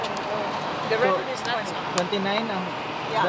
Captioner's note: murmurs